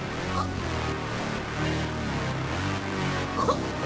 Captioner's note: dramatic music; all choking; dramatic music